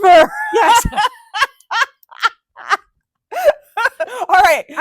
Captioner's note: laughing